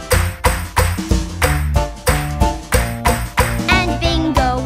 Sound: clap

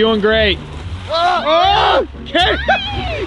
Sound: screaming

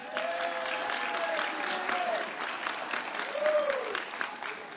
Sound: audience cheering

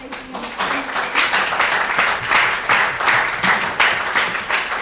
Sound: audience applauds

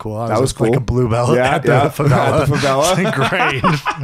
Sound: laughing

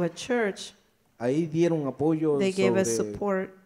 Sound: speaks in foreign language

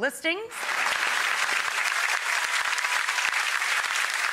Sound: audience applauding

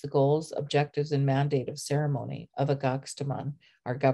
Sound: speaking siksika

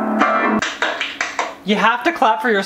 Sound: young claps

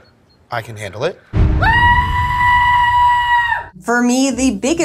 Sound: screams

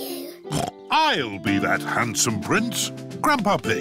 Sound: snorts

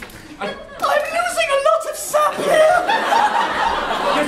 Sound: high pitched voice

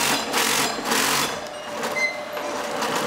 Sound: rattling

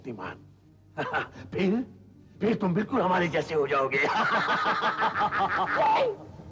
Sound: laughs

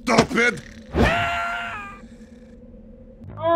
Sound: Sniper screams

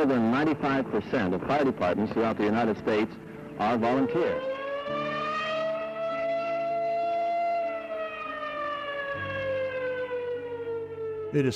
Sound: air raid siren

